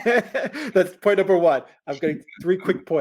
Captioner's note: both laughing